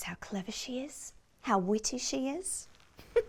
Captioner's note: giggles